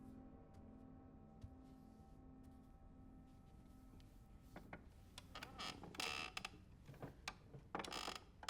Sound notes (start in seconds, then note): 5.4 chair creaking